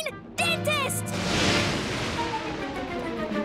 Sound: thundering

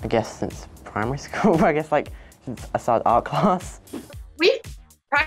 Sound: laughs

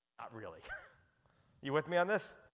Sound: chuckles

